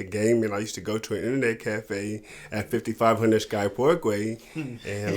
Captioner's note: chuckling